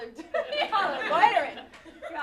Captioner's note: laughter